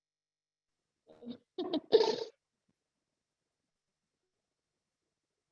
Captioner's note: laughs